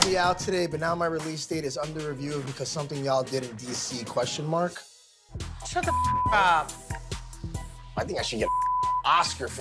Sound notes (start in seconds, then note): 5.8 beep; 8.4 beep